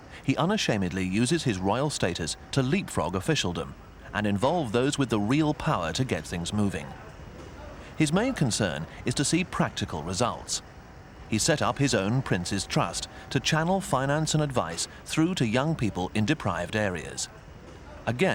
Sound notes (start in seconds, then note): none